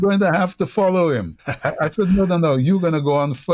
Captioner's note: laughter